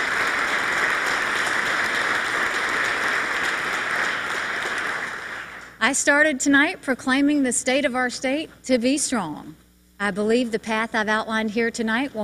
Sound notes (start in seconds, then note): 0.0 applause